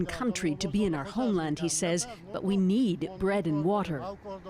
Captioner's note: speaking foreign language